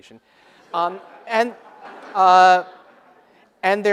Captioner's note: laughter